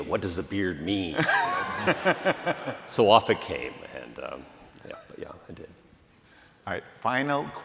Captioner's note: laughter